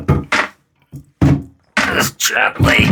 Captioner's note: grunts seductively